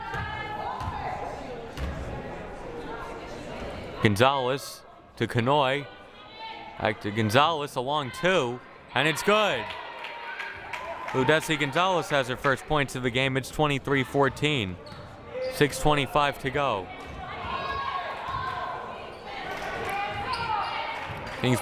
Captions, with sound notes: (crowd murmuring) Gonzalez, to Kanhoye. Back to Gonzalez, a long two, and it's good. (crowd cheering and applauding) Ludeysi Gonzalez has her first points of the game, it's 23-14, 6:25 to go. (crowd murmuring)